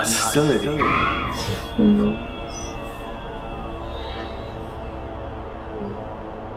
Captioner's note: eerie squealing